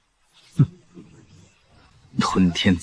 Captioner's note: cold snort